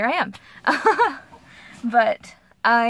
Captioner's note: nervous laugh